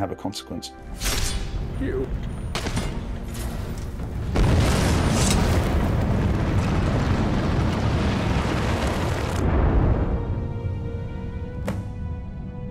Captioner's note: combat sounds followed by melancholic music